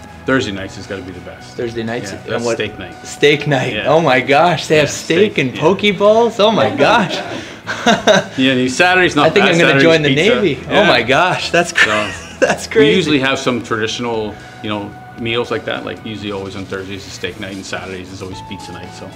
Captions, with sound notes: Thursday nights has got to be the best. - Thursday nights. - That's steak night. Steak night! Oh my gosh, they have steak and poke bowls. Oh my gosh! (laughing) - Yeah, Saturday's not bad... - I think I'm going to join the Navy. Oh my gosh, that's crazy! We usually have some traditional meals like that. Like, usually, always on Thursdays, it's the steak night; and Saturdays is always pizza night.